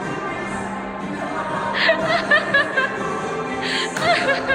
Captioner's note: laughter